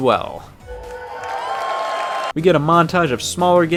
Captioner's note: applause and cheering